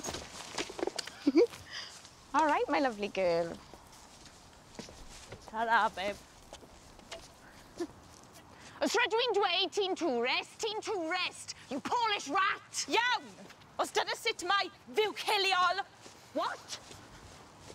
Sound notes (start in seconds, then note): 8.7 in Welsh; 12.9 in Welsh